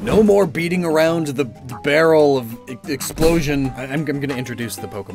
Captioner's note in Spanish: SFX de explosión